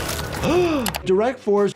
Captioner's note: doctor gasps